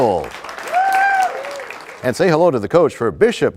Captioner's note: applause